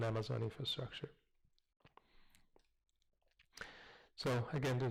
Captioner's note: pause